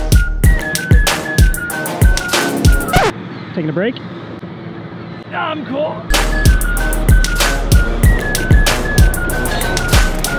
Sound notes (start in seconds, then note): 2.9 disc stops; 6.1 upbeat music continues